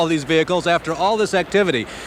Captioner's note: voiceover